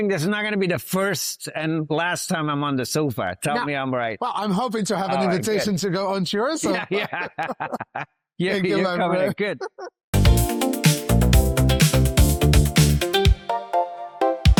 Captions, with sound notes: this is not going to be the first and last time I'm on the SOFA, tell me I'm right. Well, I'm hoping to have an invitation to go onto your sofa! Yeah! - (Laughs) Thank you, my friend. - Good.